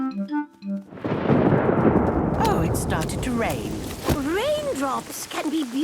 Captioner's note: thunder